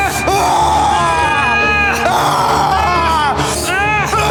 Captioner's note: Brown screaming; Siegmund yelling